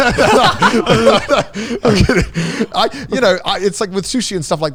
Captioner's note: speakers laughing